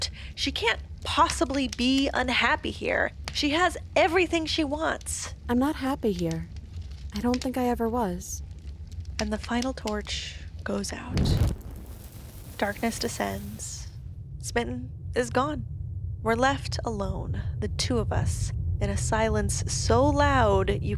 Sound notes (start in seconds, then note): 11.1 fire wooshes and then sizzles out